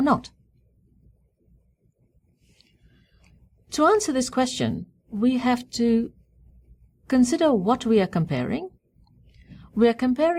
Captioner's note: pause